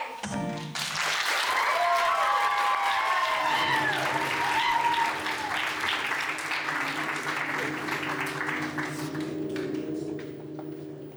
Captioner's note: applause